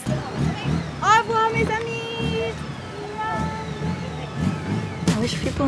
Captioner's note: speaking in foreign language